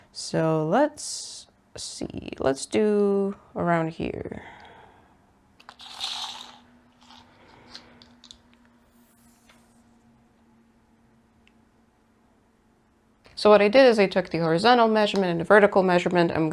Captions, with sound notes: So, let's see... Let's do around here. [tape measure noises] So, what I did is I took the horizontal measurement and the vertical measurement.